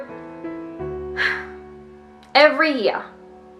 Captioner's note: sigh